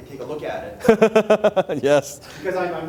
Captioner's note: laughing